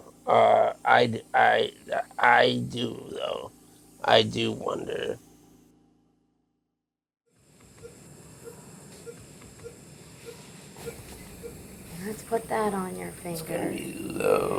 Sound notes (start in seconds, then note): 7.3 ventilator hissing; 10.8 medical machine beeping